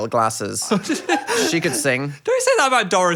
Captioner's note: Phil laughs